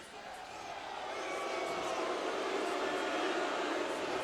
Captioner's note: audience jeering